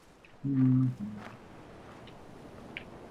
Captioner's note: hums